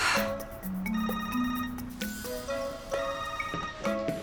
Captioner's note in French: soupirs; sonnerie de téléphone